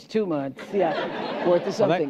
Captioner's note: laughter